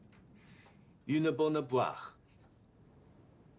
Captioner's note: French